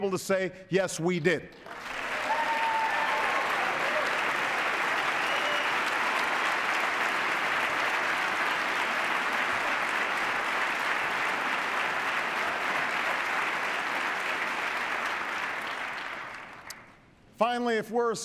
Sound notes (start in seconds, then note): 5.3 cheers, applause